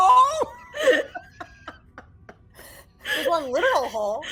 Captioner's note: all laughing